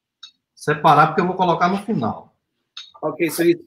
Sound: speaks portuguese

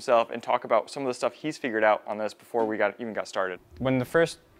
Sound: none

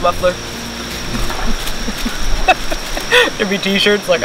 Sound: laughs

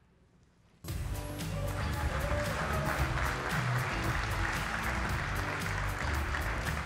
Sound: lively music; audience applauding

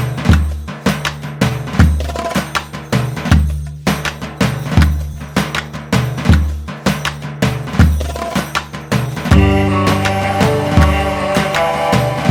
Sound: applause

